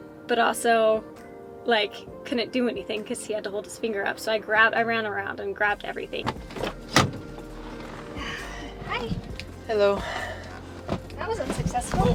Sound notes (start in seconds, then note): 6.1 car door opening; 6.5 mellow music